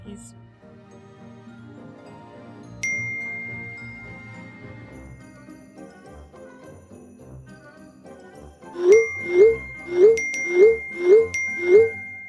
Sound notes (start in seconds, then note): 3.1 text message notification; 8.8 multiple text message notifications